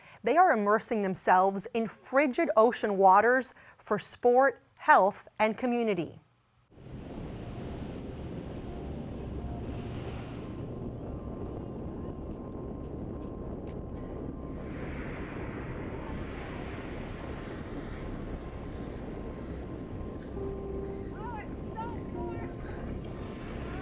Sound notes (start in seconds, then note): 7.4 soft tranquil music; 14.8 waves crashing